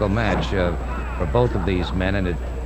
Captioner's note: wrestlers thudding